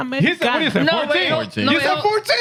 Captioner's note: speaking In Foreign Language